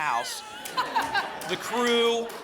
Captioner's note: laughter